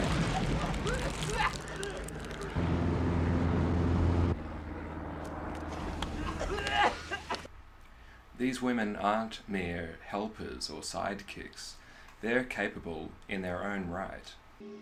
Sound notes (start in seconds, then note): 0.1 men coughing; 1.7 plane engine; 5.6 men coughing